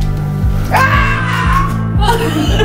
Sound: screaming

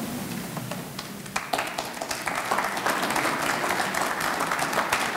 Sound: audience clapping

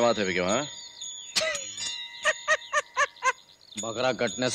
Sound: laughs

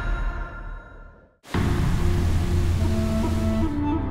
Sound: water gushing

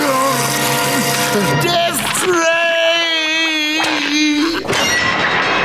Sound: screaming

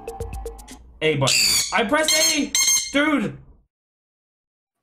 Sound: beeping

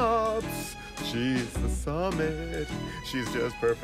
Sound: hesitantly

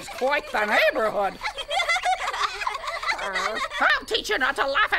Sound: giggling

